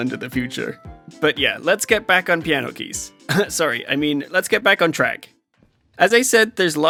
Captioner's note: cough